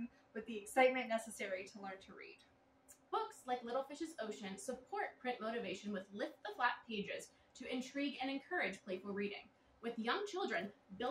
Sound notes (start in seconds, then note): none